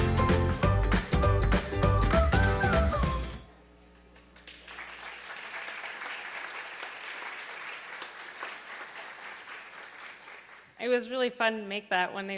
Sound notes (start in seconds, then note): 4.4 audience applause